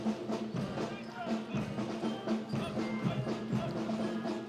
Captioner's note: Commandants de troupe crient des ordres